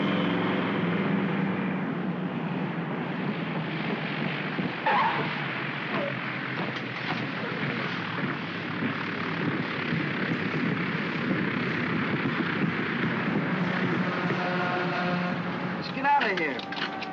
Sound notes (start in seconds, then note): 3.4 wheels chirp; 5.3 aircraft rumbles softly; 13.8 creaking sound; 16.9 sirens wailing